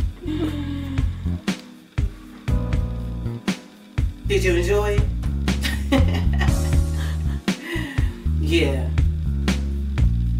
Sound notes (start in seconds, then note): 0.0 upbeat music; 5.6 mom laughs